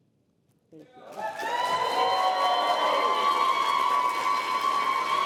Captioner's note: applause